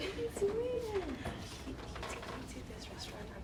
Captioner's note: chatter